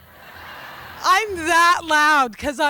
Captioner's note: audience laughter